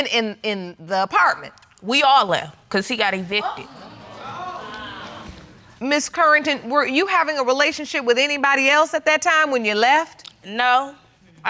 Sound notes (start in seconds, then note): 3.3 audience exclaiming